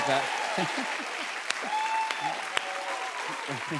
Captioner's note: cheers and applause